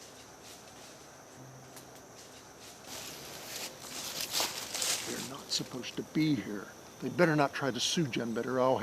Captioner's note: leaves crunching